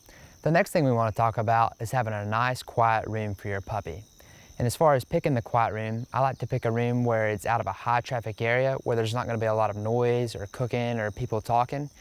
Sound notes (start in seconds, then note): none